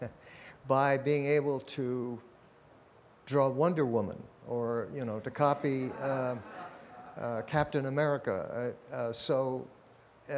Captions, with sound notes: by being able to draw Wonder Woman, or, you know, (audience laughs) to copy Captain America, so.